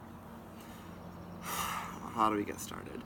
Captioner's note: sighs